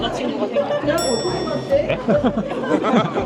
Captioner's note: ding sound effect; laughter